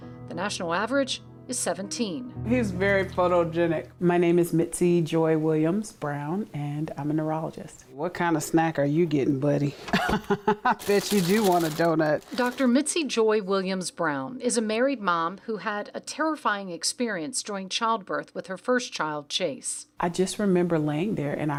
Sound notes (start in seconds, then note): 9.9 laughs